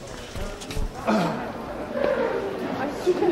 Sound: clears throat

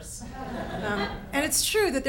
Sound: audience laughs

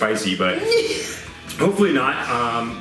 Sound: laughs

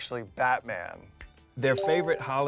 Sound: Philemon snaps fingers

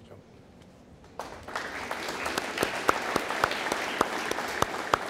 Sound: audience applauding

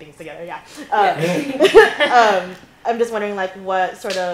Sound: laughter

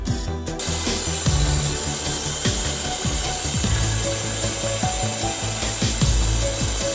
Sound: water spraying

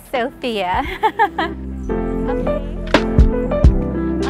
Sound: laughs

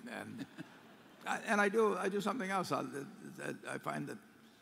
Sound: laughter

